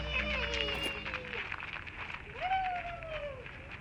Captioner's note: yelling excitedly